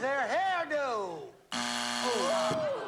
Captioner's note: buzzer